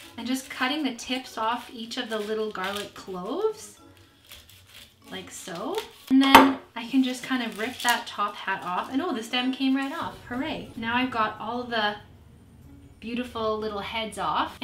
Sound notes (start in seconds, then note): 6.1 knife bangs